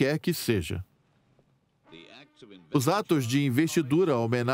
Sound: voiceover

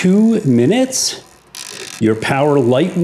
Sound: timer dial turning

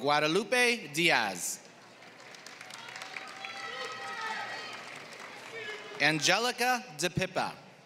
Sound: applause

